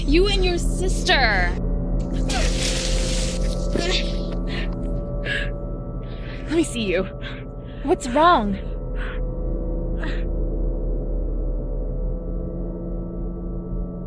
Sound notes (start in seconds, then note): 3.7 Tiffany gasping for air